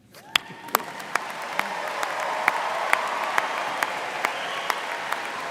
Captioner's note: audience applauding and cheering